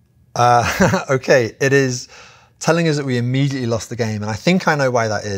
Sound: laugh

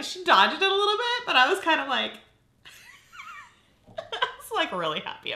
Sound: laughs

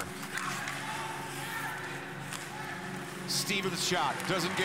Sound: players shouting

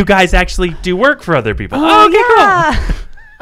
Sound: laughing

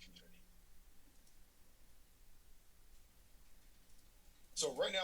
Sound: silence

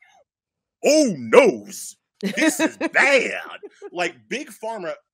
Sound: laughing

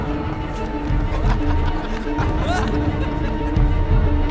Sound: men laughing

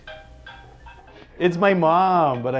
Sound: ringing

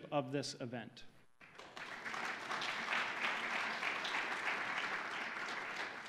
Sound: audience applauding

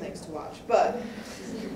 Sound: audience laughs

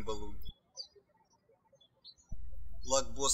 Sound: birds chirping

